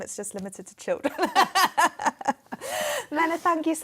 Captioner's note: laughter